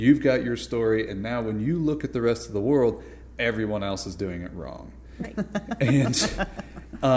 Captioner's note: laughter